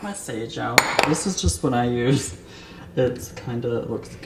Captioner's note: bowl clinks